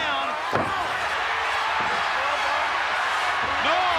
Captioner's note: crowd cheering